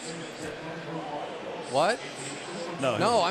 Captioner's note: pa announcement